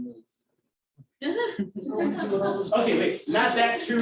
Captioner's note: laughter